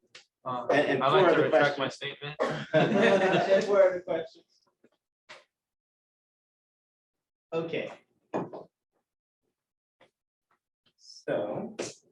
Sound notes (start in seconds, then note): 2.4 laughter